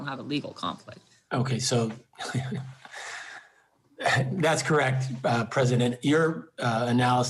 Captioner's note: laughs